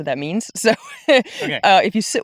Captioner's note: laughs